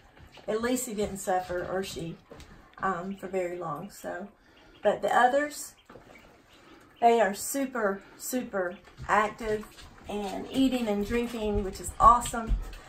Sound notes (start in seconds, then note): 5.9 ducks chirping